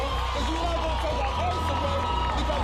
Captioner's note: crowd cheering